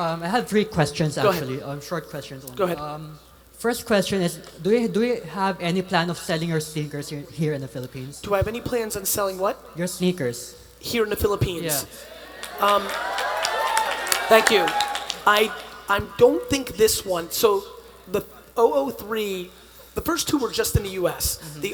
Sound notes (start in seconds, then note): 12.0 attendees applauding